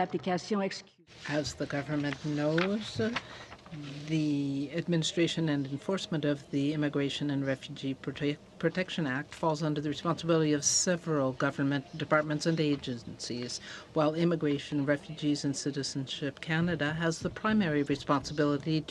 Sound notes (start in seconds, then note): 4.8 speaking French